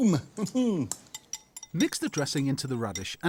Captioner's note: chuckles